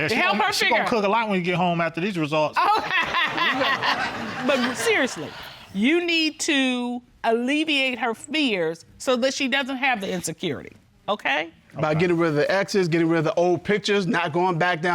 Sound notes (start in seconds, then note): 2.6 Judge Dana laughing